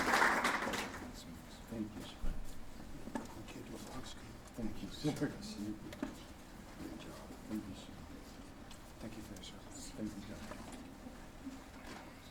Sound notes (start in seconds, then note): 0.0 applause; 1.3 indistinct chatter